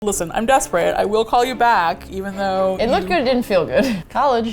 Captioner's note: laughs